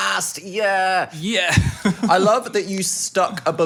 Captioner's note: laughs